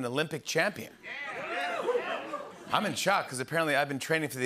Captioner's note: cheers